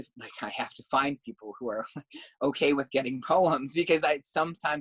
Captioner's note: laugh